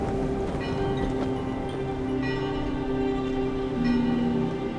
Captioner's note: bell tolling